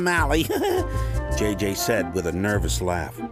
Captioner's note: chuckling